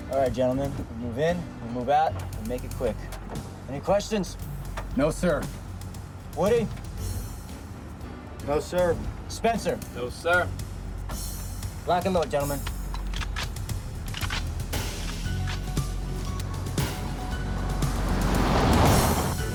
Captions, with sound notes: All right gentlemen, we move in, we move out, we make it quick. Any questions? - No, sir. - Woody? - No, sir. - Spencer? - No, sir. - Lock and load, gentlemen. (guns clicking) (tense music continues)